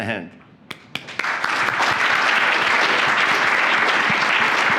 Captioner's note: applause